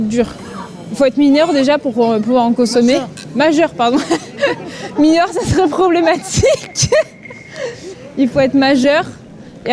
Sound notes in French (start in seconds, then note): 7.7 rires